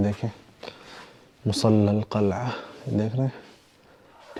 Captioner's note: Arabic